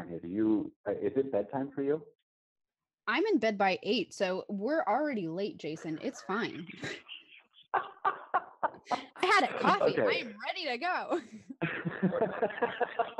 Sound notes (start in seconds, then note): 6.6 laughs